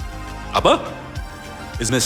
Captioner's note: speaking in foreign language